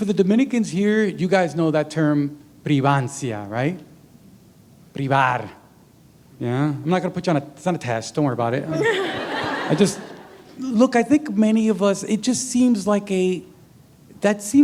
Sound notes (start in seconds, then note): 8.6 laughter